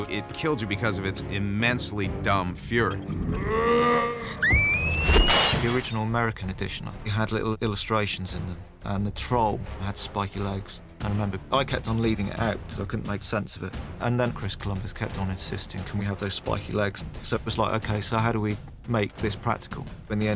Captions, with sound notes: ...it killed you because of its immensely dumb fury. [TROLL YELLS] [SCREAMING] The original American edition, we had little illustrations... ...and the troll had spiky legs. I remember I kept on leaving it out because I couldn't make sense of it. And then Chris Columbus kept on insisting, "Can we have those spiky legs?" So it was like, "Okay. So how do we make this practical?"